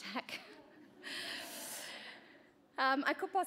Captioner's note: laughter